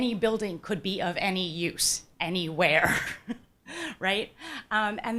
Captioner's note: laughs